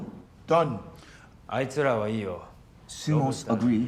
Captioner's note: speaking in foreign language